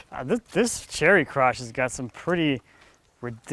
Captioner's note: none